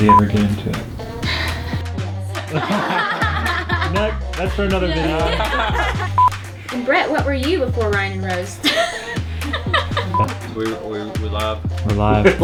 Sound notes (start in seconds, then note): 0.0 giggles; 0.0 beep; 3.3 laughing; 5.9 laughing; 6.2 beep; 9.2 laughing; 10.1 beep